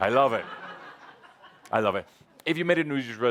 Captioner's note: laughter